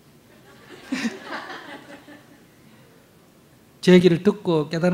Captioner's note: audience laughter